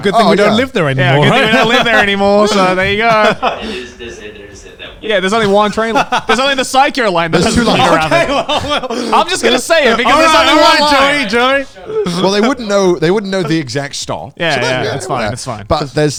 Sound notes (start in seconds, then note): 1.0 laughs; 3.7 crew murmuring; 5.4 laughs